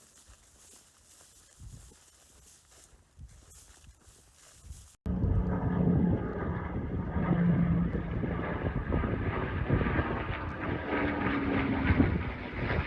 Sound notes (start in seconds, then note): 5.0 P-51 Mustang loud engine noise